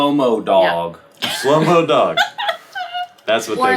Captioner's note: chuckles